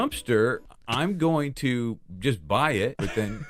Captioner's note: giggles